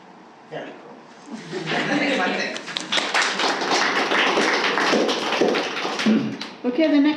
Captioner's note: clapping